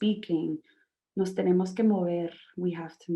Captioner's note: speaking in Spanish